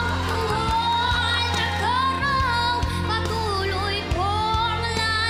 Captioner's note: cheering, applause